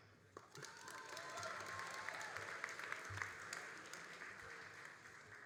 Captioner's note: all applauding and cheering